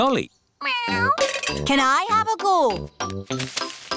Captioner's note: meows